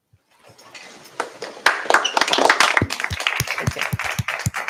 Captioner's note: applause